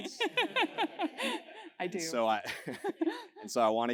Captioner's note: laugh